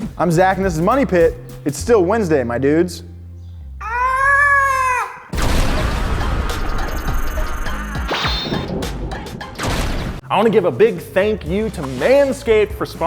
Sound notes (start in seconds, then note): 4.0 yelling; 5.4 lighting strike; 6.0 upbeat music